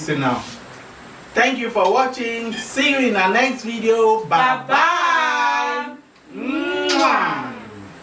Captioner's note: kisses